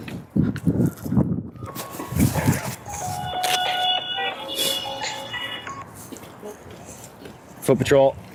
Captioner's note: cell phone rings